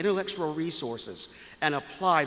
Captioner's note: none